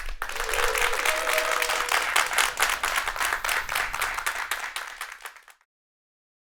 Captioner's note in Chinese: 鼓掌